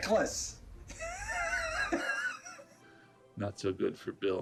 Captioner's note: laughing